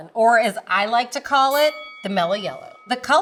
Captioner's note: bell dings